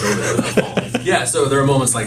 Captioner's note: laughs